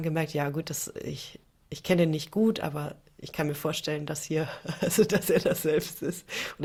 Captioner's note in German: gelächter